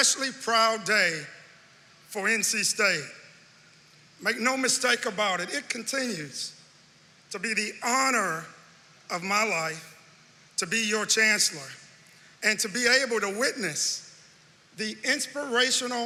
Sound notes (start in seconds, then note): none